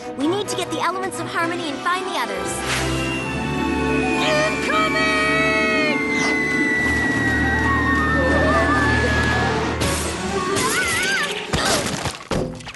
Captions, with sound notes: We need to get the Elements of Harmony and find the others. Incoming! Whoa! (smash) (smash) (thud)